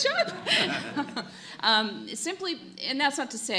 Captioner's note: laughter